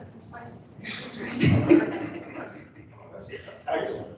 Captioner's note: laughter